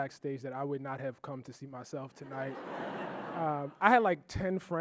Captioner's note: audience laughing